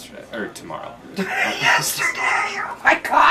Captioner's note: laughing